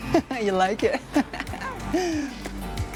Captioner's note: laughs